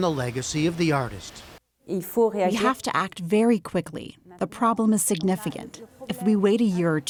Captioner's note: through translator